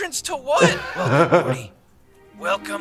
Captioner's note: laughing